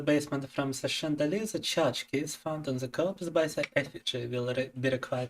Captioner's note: speaking in Russian